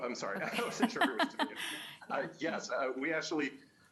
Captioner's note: laughter